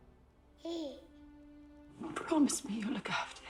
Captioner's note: baby gurgling